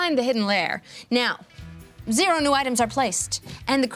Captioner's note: none